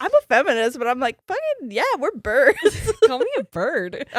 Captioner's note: giggles